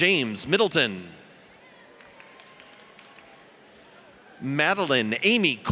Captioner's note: audience applauds